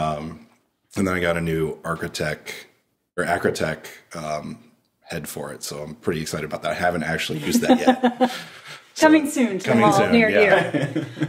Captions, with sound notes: And then I got a new Acratech head for it so I'm pretty excited about that. I haven't actually used that yet. (laughing) - Coming soon to a mall near you. - Coming soon yeah.